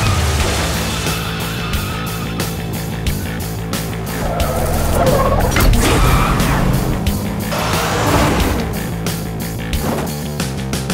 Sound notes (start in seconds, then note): 4.0 brakes squealing